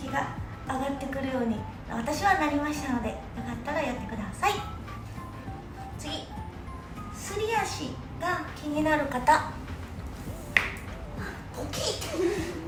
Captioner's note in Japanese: ポキッ